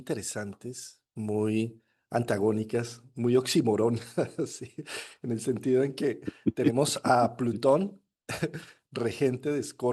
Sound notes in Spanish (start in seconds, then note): 4.0 risas